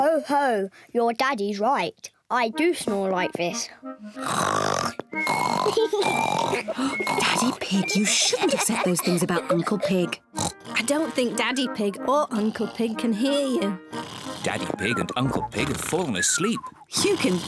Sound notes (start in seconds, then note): 4.1 both snore exaggeratedly; 6.7 whispering